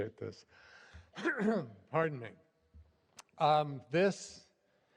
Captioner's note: clears throat